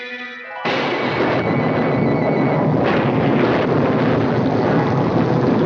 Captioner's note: thunder crashing, rumbling